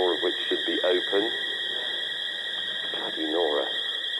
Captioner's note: alarm sounds